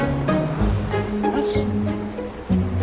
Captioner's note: speaking German